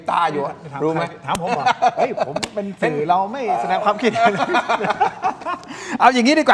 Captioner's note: laughs